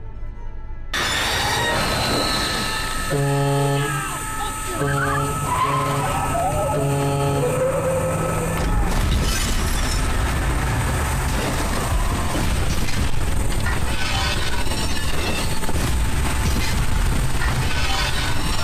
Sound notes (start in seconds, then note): 0.9 sudden screeching music; 3.0 horn blasting; 4.7 tires screeching; 7.5 soft intense music; 8.9 glass shattering; 9.0 metal crunching; 11.5 soft intense music